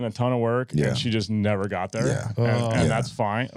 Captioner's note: laughing